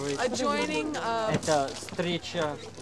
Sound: non-english speech

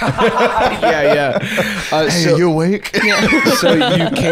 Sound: laughing

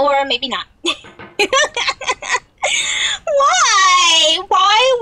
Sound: laughs

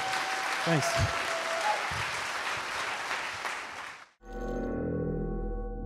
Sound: audience cheering

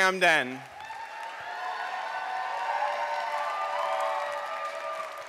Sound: applause, cheering

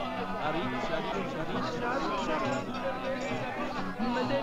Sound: chatter

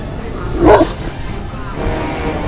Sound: howled

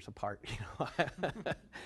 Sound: laughter

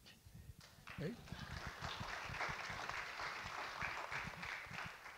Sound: audience clap

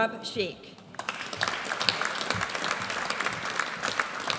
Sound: audience applauds

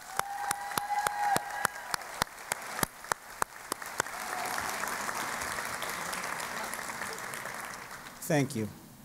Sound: applause and Cheering

